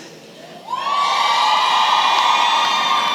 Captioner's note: cheering